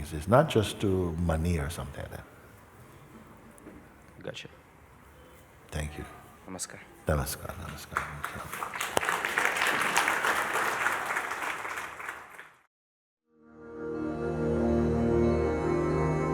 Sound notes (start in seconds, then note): 9.3 applause